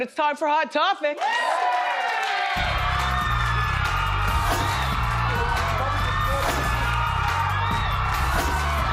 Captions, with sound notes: It's time for hot topics. (crowd cheering) (upbeat music)